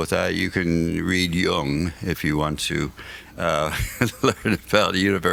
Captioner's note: laughs